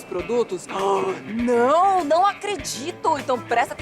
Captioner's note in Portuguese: suspira